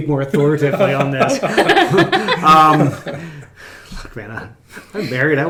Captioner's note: laughing